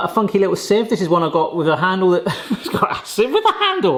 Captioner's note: laughs